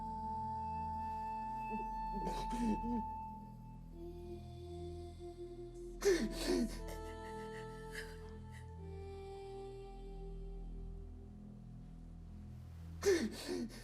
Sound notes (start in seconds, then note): 2.6 sobbing; 2.6 solemn music